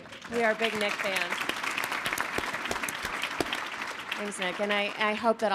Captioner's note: audience applauding